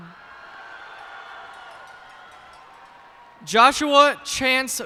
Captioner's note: cheers and applause